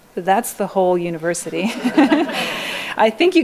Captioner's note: laughing